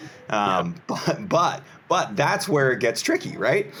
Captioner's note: chuckles